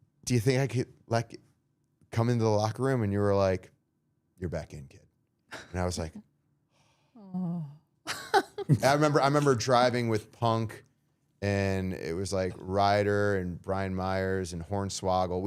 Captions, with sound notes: "Do you think I could like come into the locker room? And you were, like, "You're back in, kid.'" And I was, like... (sighs) I remember driving with Punk and it was, like, Ryder, and Brian Myers and Hornswoggle.